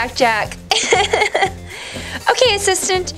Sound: laughs

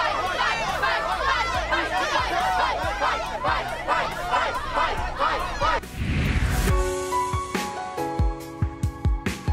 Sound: crowd noise

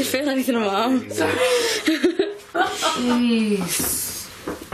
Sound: laughing

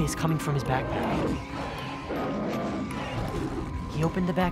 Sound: growling

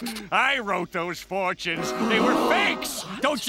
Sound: crowd gasping

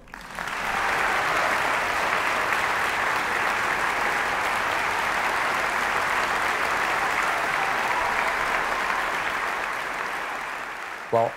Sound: clapping

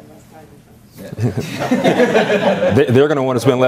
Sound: laughter

